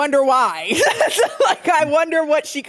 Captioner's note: laughs